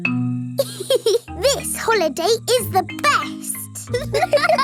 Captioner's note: giggles; laughing